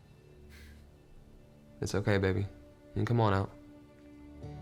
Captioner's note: sighs